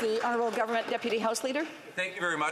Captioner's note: applause